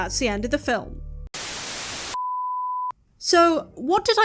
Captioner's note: static